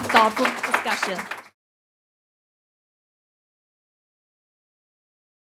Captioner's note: audience clapping